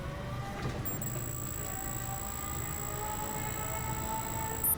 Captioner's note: text beeping